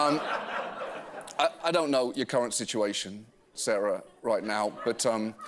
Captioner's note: laughter